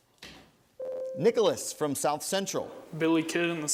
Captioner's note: ding